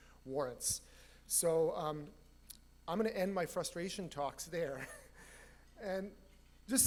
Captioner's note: laughs